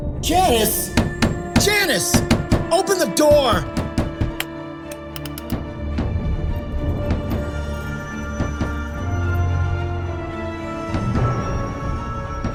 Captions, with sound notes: - Janice, Janice! Open the door! (Bill knocks, dramatic music)